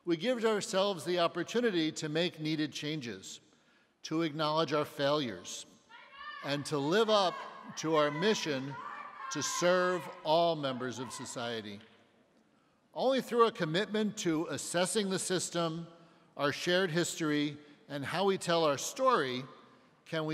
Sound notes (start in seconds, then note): 6.4 woman shouting